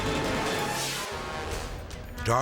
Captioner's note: scene swooshing